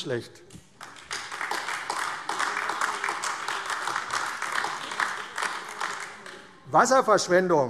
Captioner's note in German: Beifall AfD